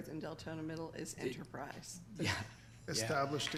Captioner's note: laughs